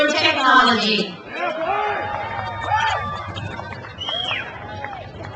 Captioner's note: crowd cheers